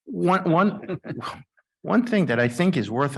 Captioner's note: chuckles